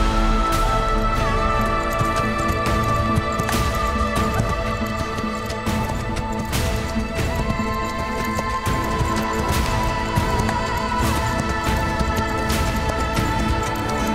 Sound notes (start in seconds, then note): 1.6 horse gallops